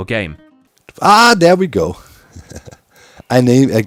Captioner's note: chuckles